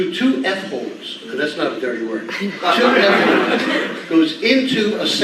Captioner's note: all laughing